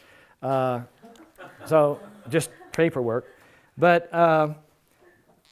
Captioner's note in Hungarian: Nevetés